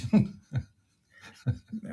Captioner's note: laugh